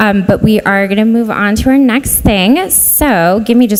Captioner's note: none